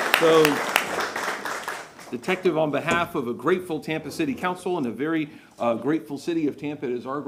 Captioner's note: applause